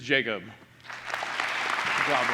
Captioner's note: applause